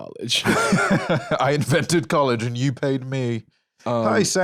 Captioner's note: laughs